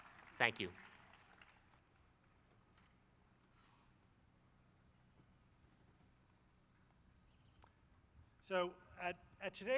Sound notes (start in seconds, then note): 0.0 applause